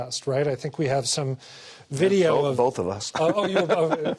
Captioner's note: laughter